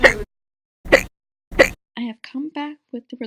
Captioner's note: hic!; hic!